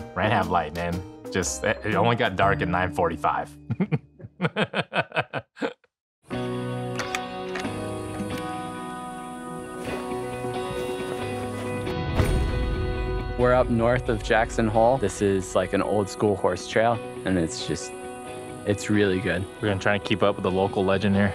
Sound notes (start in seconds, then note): 3.7 laughs